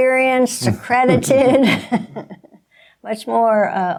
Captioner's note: laughing